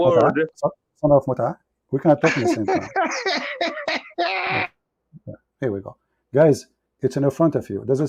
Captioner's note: Ketawa